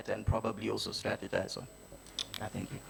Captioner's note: none